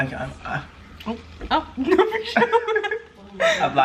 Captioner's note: laughs